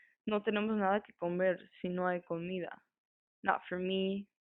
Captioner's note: voice actor speaking foreign